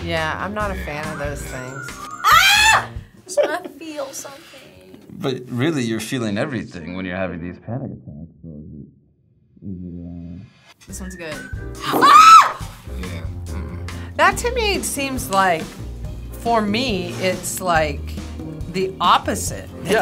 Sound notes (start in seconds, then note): 1.0 screams; 8.4 voice trails off; 11.9 screams